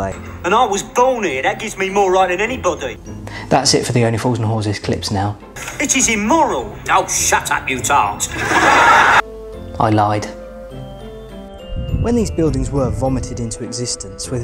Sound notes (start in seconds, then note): 8.3 audience laughs